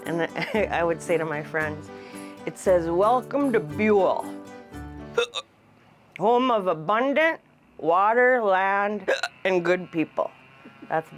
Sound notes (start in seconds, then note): 0.2 chuckles; 5.1 hiccup's; 9.0 hiccup's